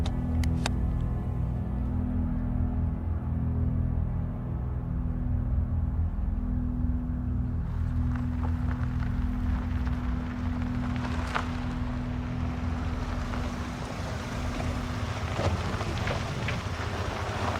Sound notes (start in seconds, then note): 12.8 engine rumbling